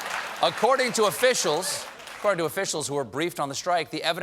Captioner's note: applause